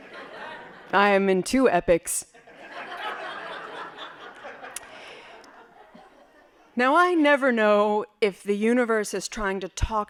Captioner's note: laughing